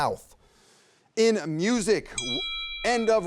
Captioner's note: bell dinging